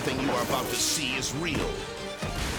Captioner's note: person thuds; helicopter booms